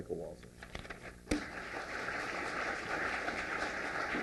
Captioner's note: applause